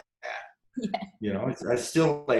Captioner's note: laughs